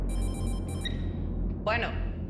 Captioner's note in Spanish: Suena el celular